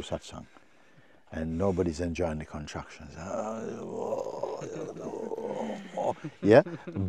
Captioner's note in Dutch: kreunt